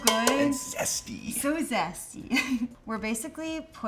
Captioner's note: chuckles